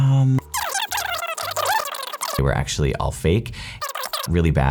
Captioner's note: video squeaking; video squeaking